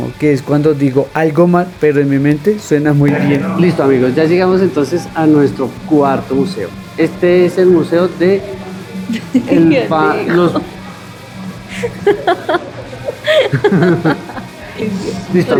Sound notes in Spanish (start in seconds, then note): 11.6 risas